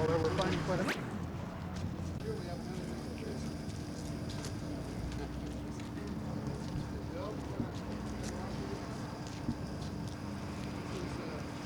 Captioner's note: crowd noise